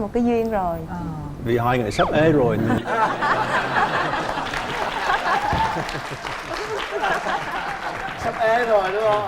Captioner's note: laughing